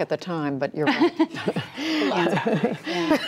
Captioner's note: laughter